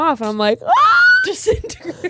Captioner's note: screams; laughs